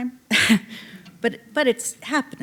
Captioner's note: chuckling